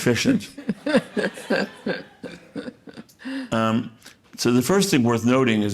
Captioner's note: audience laughing